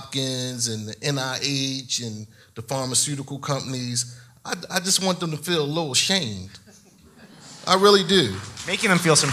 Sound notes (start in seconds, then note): 6.6 audience laughs